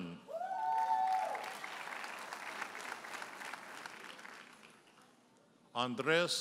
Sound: audience cheers and applauds

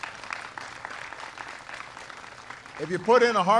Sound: applause

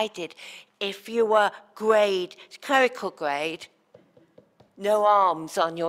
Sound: tapping

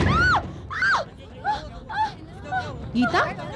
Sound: screams

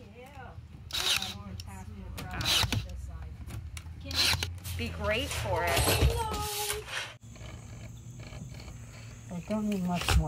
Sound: chatter and construction sounds

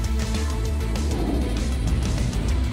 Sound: rocket rumbling; satellite whooshing

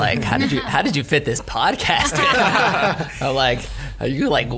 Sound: laughs

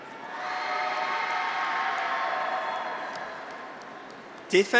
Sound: graduates cheer

